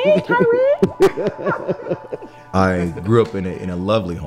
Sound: laughs

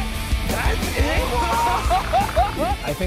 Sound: laughs

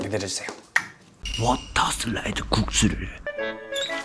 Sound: tid-ding

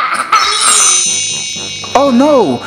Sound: magic wand

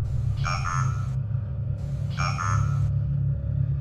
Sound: device beeping

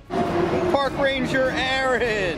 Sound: dinosaur roars

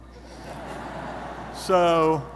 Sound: audience laughing

